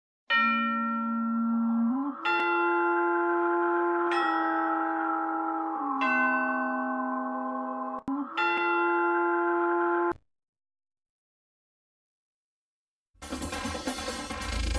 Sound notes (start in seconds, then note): 0.1 spooky chimes continuing; 10.3 silence; 13.2 dance music plays